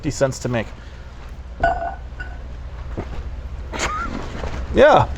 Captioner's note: laughs